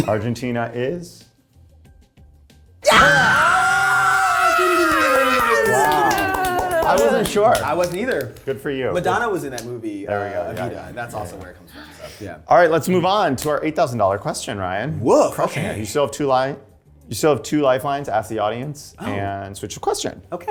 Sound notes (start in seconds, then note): 2.8 cast cheering; 4.5 singing